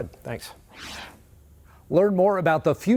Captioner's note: whoosh sound